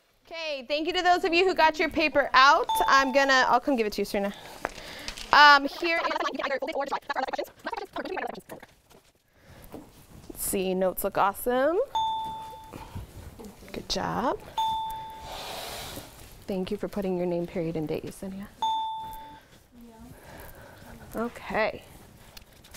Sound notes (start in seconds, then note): 2.7 ding; 11.9 ding; 14.5 ding; 18.6 ding